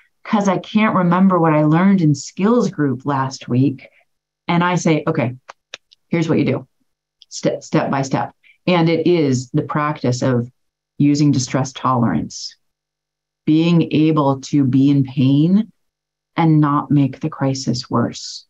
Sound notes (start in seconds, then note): 5.7 claps hands